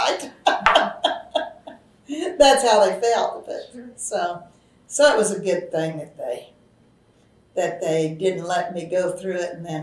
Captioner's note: laughs